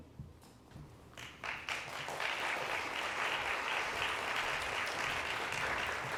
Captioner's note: applause